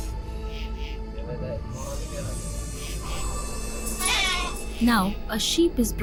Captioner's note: enigmatic music; sheep bleat